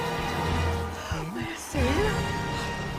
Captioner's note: gasping